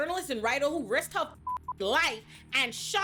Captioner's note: beep